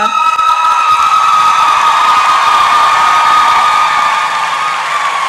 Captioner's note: applause and cheering